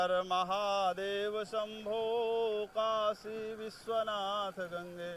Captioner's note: chanting in foreign language